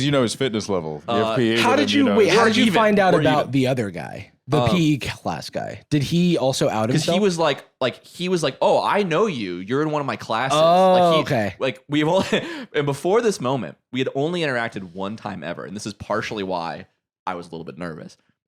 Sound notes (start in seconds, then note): 12.4 laughs